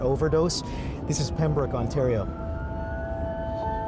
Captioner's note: none